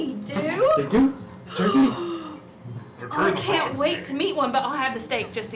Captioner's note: gasps